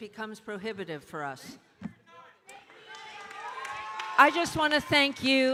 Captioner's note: audience cheering and applauding